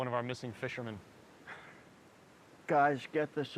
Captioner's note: Skip sighs